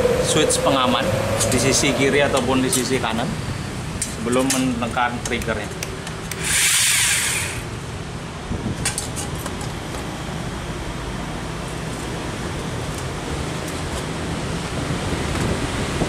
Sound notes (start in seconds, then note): 6.3 vroooommm